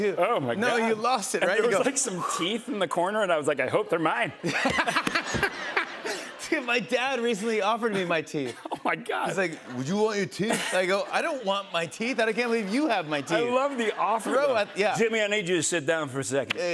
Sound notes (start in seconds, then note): 4.2 laughter